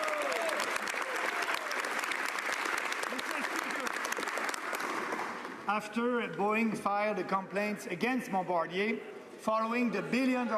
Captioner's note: some Applause